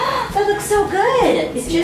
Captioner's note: gasping